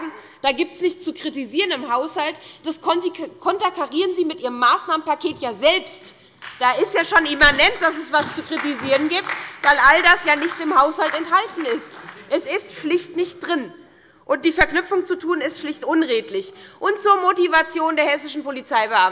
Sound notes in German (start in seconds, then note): 11.8 Beifall bei der SPD und der LINKEN